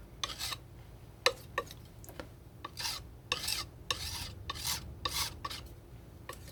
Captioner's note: scratching